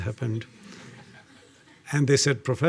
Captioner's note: audience laughing